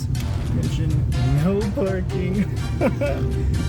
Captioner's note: laugh